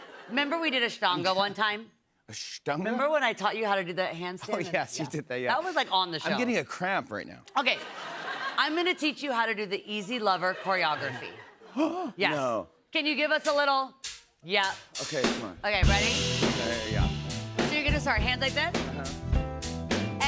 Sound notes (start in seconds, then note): 11.7 gasps